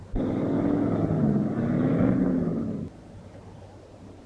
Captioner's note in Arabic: هدير المحرك